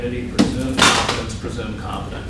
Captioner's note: object dropped